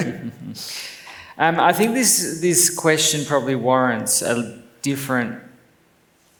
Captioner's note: laughs